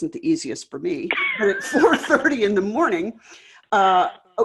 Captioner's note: laughs